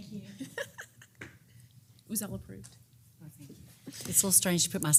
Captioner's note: laugh